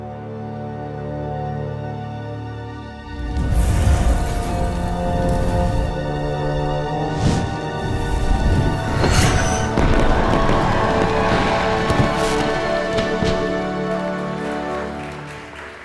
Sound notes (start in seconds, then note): 9.9 fireworks exploding; 14.0 applause